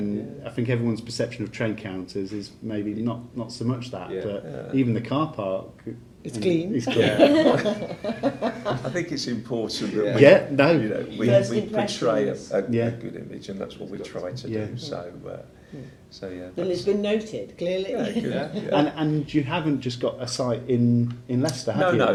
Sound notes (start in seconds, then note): 6.9 laughing